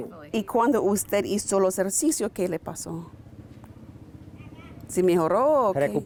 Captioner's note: speaking in foreign language; patient speaking in foreign language